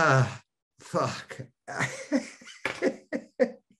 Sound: Denis laughing

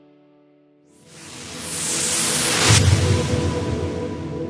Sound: whooshing

